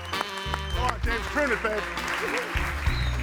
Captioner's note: audience cheering